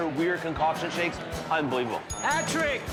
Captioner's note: bell rings